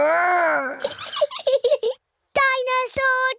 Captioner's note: giggles